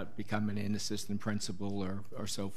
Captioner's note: none